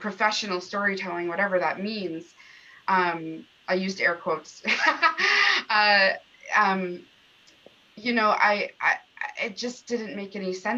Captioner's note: laughter